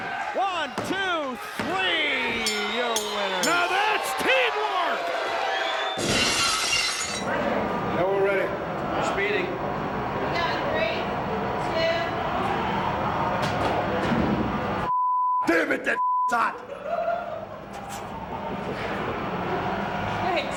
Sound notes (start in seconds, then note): 2.2 bell rings; 5.0 audience cheers; 6.0 glass shatters; 14.9 beep; 16.6 director laughs